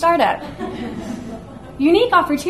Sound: audience laughs

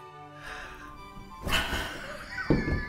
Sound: laughs at failure

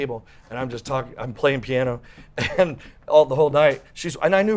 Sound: laughs

